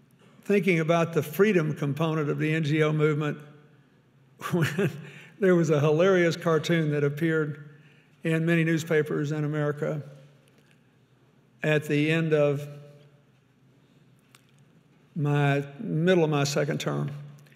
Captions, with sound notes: thinking about the freedom component of the NGO movement when (chuckles) there was a hilarious cartoon that appeared in many newspapers in America at the end of middle of my second term